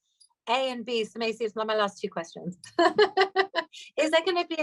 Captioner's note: laughs